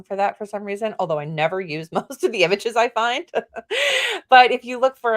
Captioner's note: laughs